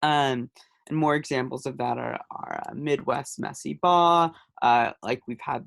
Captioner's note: hebrew